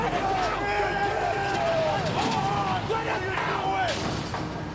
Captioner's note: group panicking